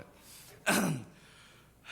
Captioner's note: clears throat